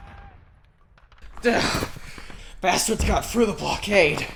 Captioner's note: grunt